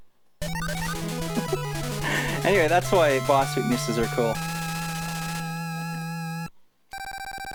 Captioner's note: giggle